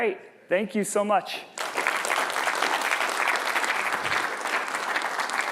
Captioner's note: applause